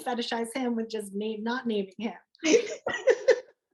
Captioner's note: laughter